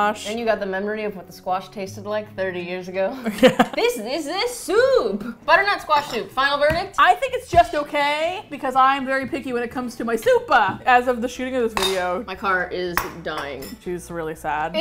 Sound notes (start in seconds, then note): 3.2 both laugh